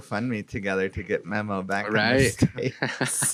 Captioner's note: laughs